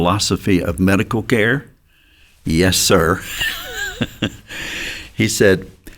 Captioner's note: chuckles